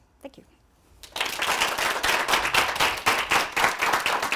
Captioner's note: applause